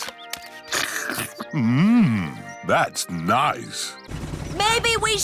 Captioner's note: slurps